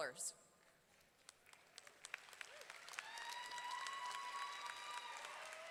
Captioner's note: audience clapping and cheering